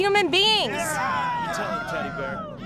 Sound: crowd cheering

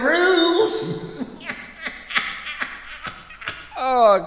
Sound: demon laughing

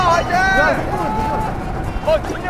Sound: shouting way to go!

